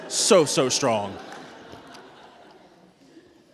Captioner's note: laughter